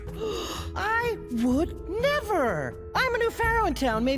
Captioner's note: gasps